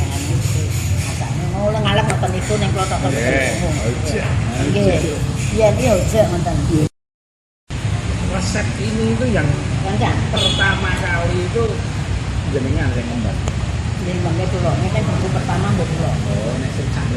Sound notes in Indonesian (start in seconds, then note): 6.6 Mandarin